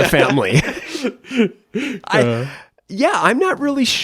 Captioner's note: laughs